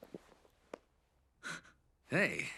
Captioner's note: gasps